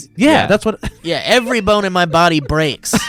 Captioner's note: laughs